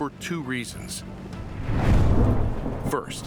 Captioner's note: thunder cracks